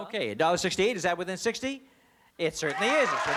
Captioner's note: cheering